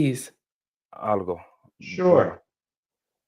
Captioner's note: speaking spanish